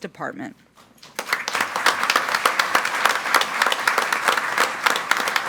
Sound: group applauding

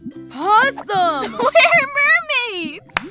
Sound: giggling

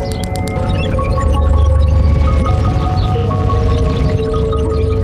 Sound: computers beeping

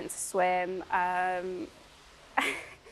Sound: laughing

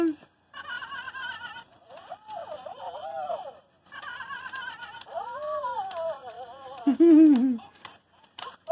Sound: laughter

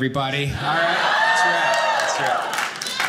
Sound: audience laughing

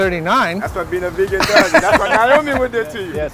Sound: laughing

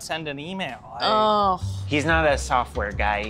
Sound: sighs

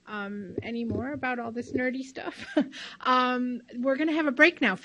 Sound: laughs

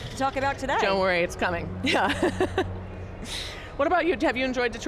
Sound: laughs

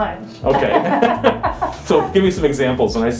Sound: laughs

